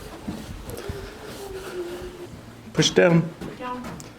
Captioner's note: humming